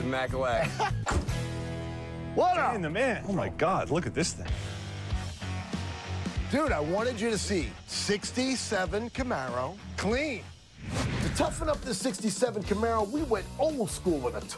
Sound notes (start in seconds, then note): 0.5 laughter; 5.1 instrumental music playing